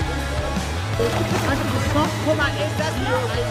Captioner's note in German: Stimmengewirr